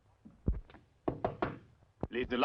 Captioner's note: door knocking